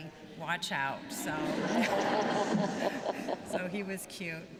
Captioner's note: laughter